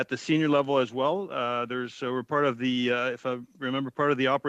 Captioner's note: speaking French